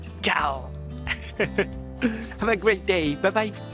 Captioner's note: lion roar in Japanese